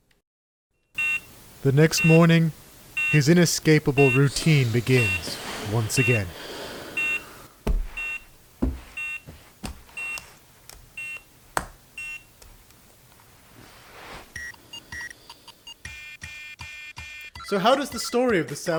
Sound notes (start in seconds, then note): 3.9 alarm beeping